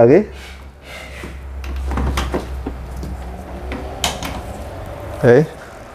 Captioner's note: electrical cable noise